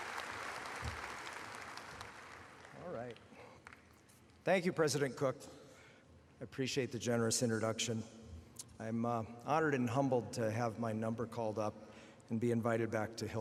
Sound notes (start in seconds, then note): 0.0 applause